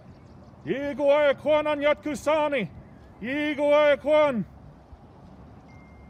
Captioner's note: man speaks in foreign language